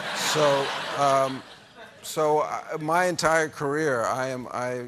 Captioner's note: laughter